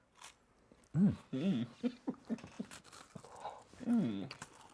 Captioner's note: laughs